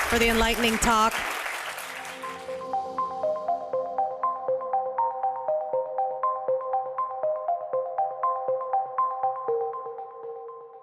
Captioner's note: applause